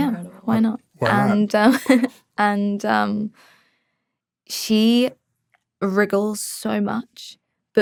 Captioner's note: chuckles